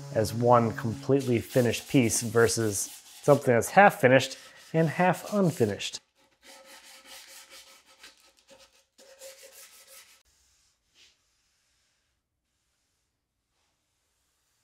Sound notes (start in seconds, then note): 6.9 sandpaper scrapes